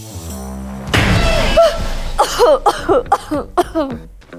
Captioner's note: explosion; coughing